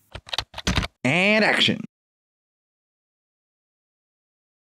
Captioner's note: typing